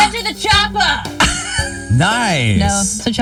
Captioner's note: laughs